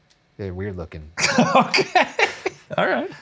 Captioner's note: laughing